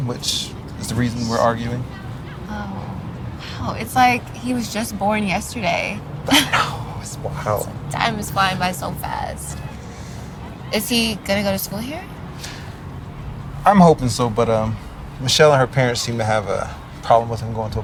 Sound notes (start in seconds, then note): 6.2 Ja'nelle laughing